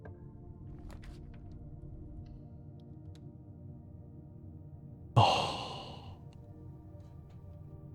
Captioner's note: sighs